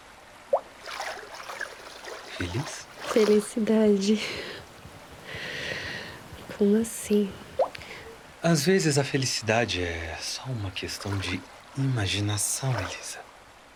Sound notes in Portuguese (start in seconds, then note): 0.5 Ruído aquático; 4.2 Respiração profunda